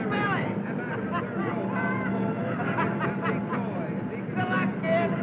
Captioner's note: happy laughing